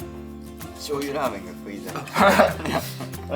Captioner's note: laughs